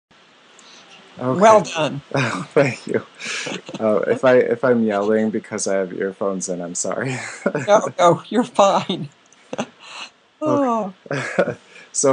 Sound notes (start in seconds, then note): 3.2 laughter; 7.0 laughter; 11.1 sigh